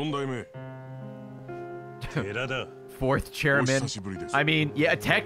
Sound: laughs

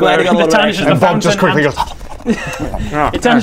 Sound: nom nom nom

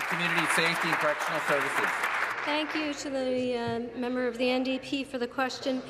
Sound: applause

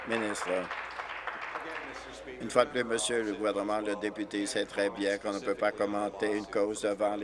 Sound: applause

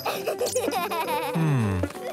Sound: laughing

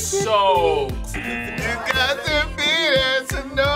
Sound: buzzer buzzing

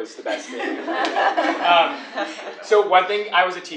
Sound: laugh

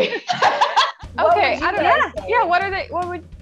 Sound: laughing

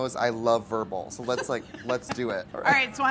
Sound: laughs

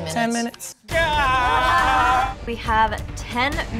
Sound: exclaims

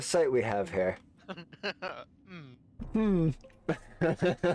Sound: laughing

